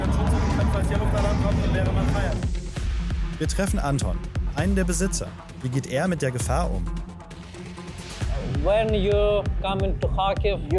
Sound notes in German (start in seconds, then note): 7.2 englisch